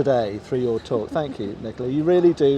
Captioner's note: laughs gently